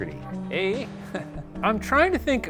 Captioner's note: laughing